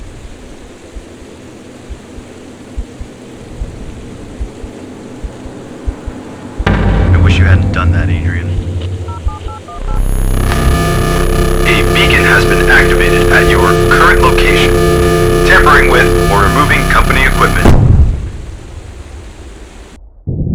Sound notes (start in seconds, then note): 9.1 phone dials; 10.5 loud static sounds; 17.8 loud bang